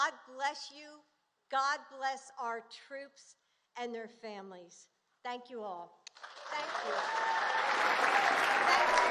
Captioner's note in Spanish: aplausos